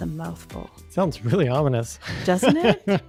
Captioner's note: chuckles